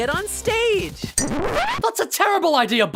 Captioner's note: record scratch